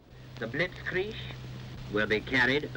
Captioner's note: radio Announcer